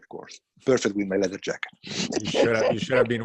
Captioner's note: laughs